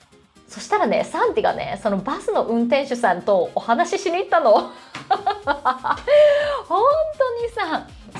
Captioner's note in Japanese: 笑い